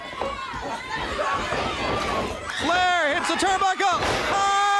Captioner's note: crowd chatter